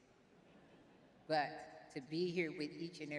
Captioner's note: laughs